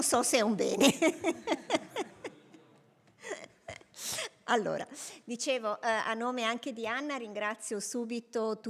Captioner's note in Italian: Risate